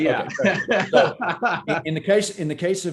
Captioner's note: laughing